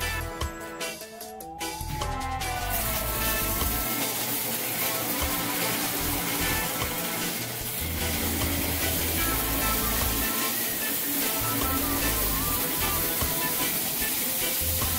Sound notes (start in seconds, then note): 1.8 snow cone machine running